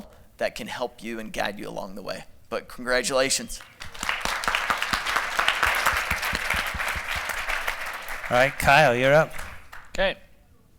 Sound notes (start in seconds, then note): 6.4 applause